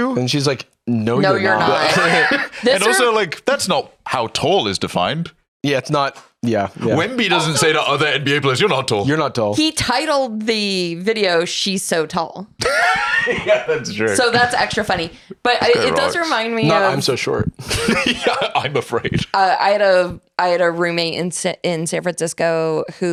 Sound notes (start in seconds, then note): 12.6 laughs; 17.5 laughs